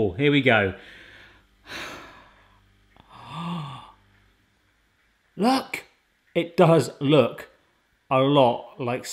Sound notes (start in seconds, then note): 3.0 awed gasp; 3.0 sigh